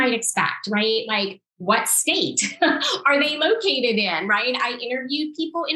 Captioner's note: laughs